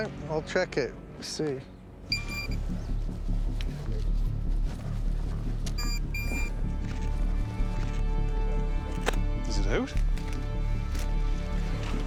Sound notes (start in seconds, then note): 2.1 beeping